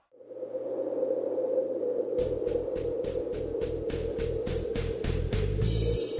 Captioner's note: wind blows; soft music